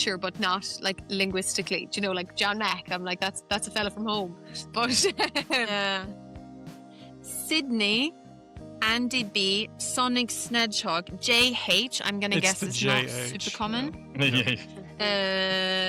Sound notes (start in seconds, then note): 4.8 laughs; 12.3 laughs